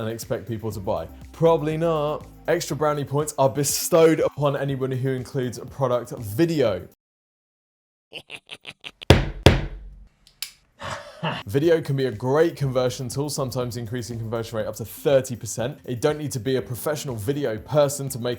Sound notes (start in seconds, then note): 8.2 man snickering